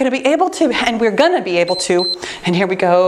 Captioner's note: timer beeps